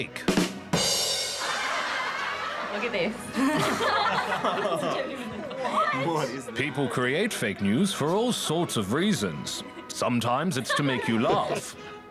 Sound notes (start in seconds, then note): 0.3 boom-tish!; 1.3 laughter; 3.9 all laugh